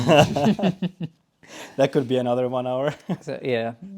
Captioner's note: laughing